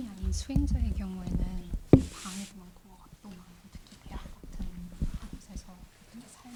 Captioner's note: translator speaking in Korean